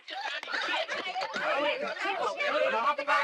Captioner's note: panicking